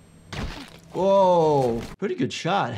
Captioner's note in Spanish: explosión de disparos